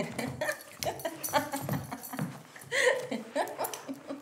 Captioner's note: laughing